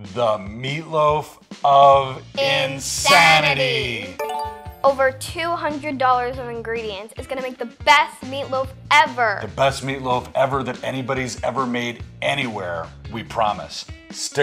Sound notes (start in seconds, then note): 4.2 notification alarm rings